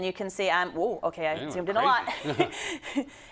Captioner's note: laugh